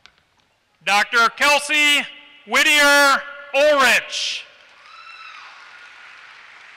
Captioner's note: applause